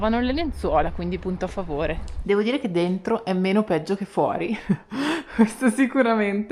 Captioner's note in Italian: risate